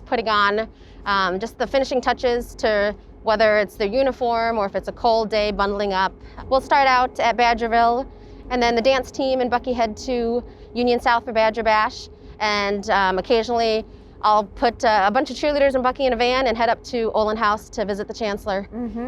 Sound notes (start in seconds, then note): none